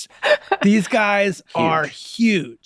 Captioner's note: laughing